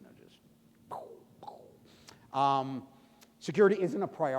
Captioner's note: imitating bomb exploding